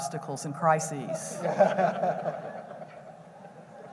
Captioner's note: laughter